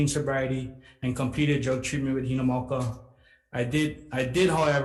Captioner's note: speaks Hawaiian